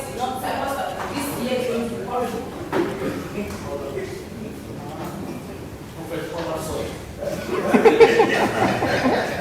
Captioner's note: laughter